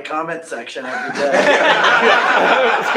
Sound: laughing

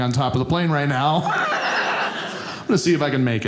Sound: audience laughing

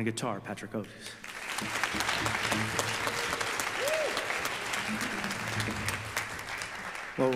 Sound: audience applause

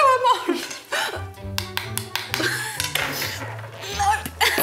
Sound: wand tapping

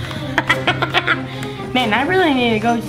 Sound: laughing

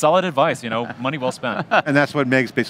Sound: laughs

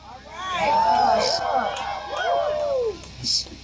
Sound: cheers

